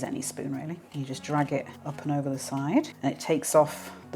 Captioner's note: scritch scritch